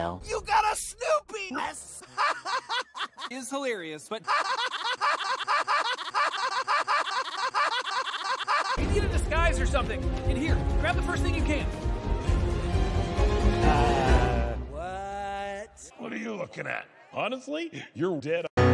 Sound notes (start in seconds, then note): 2.0 laughing; 4.2 stuttering while laughing